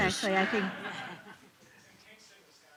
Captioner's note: laughter